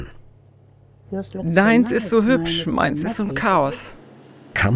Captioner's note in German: englisch